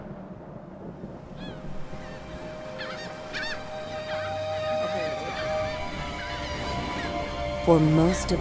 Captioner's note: birds cawing